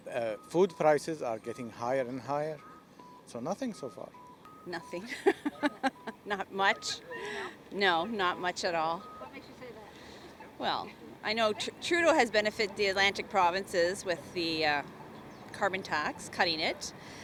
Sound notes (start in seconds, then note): 5.0 laughs